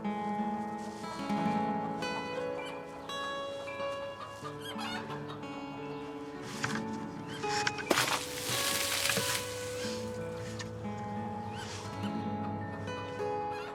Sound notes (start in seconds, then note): 0.1 melancholic music continues; 3.4 chickens clucking